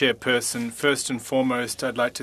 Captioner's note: speaking FRENCH